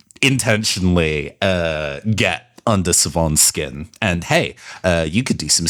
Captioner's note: none